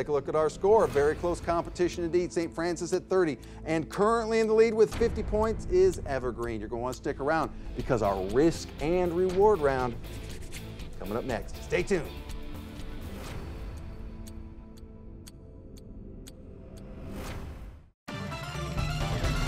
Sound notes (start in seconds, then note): 12.7 clock ticking; 18.1 suspenseful music